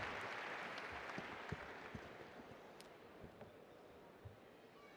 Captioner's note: applause